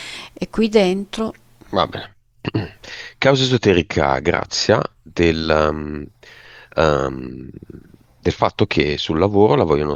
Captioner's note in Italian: schiarire la voce